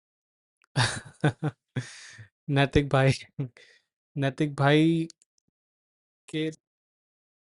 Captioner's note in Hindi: हंसी